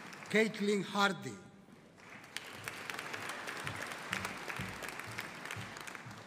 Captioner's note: audience applauding